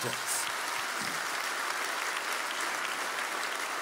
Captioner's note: applause